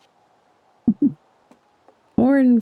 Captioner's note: chuckles